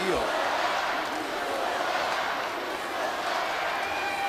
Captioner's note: audience chanting